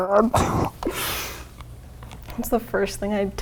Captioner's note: laughing